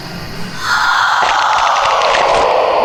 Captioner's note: distorted screaming; snapping and tearing